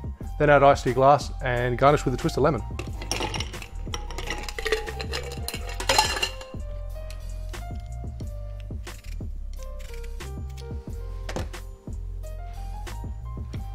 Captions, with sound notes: Then add ice to your glass and garnish with a twist of lemon. (clanging) (peeling)